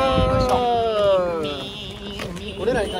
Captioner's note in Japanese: セミの鳴き声